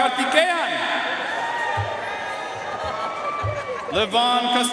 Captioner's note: audience cheering and applauding